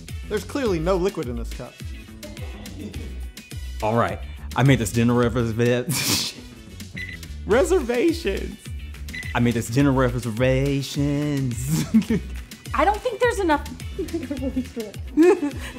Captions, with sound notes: There's clearly no liquid in this cup. All right? I made this dinner revserveaahhh Reservations! I made this dinner reveservaaaaationzzz (laughing) I don't think there's enough of this (laugh mumbling)